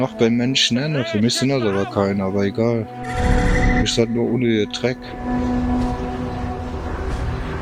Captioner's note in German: schnauben